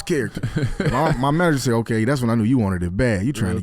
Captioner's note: laughs